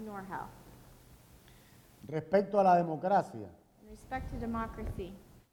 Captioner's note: speaking in Spanish